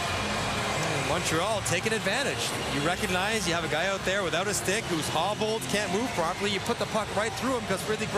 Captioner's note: cheering and Applause